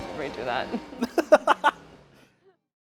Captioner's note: laughter